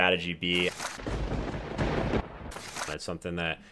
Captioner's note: thunderbolt strikes